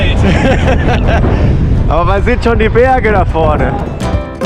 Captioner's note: laughter